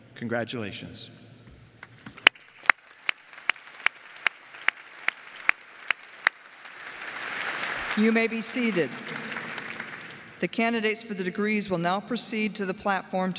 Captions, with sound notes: Congratulations. [ Applause ] >> You may be seated. The candidates for the degrees will now proceed to the platform